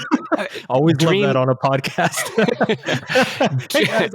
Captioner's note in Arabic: يضحك